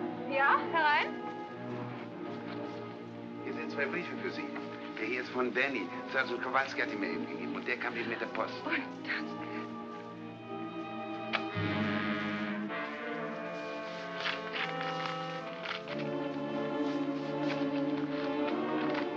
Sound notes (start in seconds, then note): 1.2 in German; 1.9 ominous music; 3.3 speaking in German; 6.1 speaking in German; 11.2 tense music; 12.9 envelope rustles; 17.0 ominous music